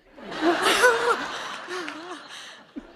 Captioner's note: laughter